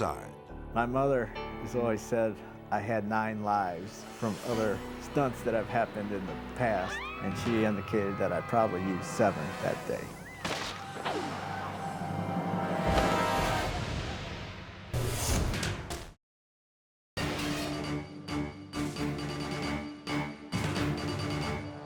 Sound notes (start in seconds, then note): 6.7 people screaming; 10.3 cord snapping; 12.7 edgy dramatic music; 15.0 dramatic whoosh; 17.2 suspenseful dramatic music